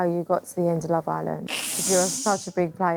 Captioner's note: laughs